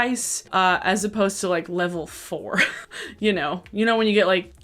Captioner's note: chuckles